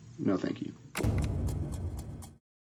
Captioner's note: clock ticking